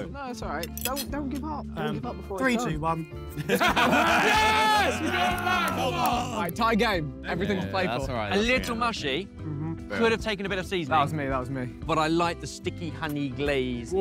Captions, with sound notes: - No, that's all right, don't give up. - Three, two, one. [all laughing] [Blue Team cheering] - All right, tie game. - A little mushy. - Mhm. - Could've taken a bit of seasoning. - That was me, that was me. - But I like the sticky, honey glaze.